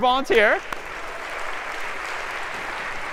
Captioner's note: applause